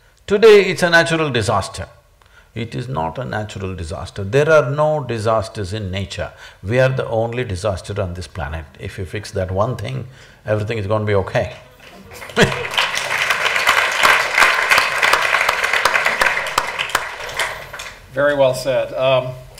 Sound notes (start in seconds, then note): 11.8 laughs; 12.0 applause